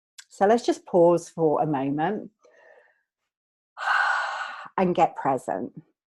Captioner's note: exhales